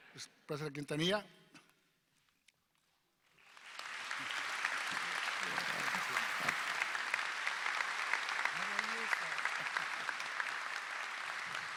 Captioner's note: applause